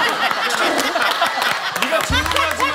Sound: unexpected retort makes everyone laugh

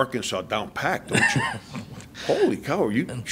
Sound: reporter laughs

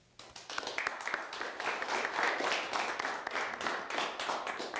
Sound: audience applauding

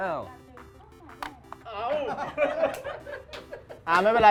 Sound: laugh

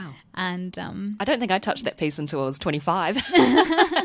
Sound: laughs

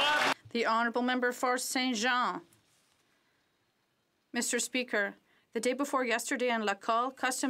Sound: some Applause

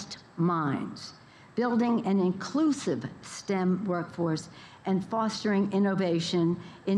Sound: none

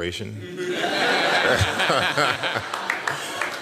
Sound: laughter

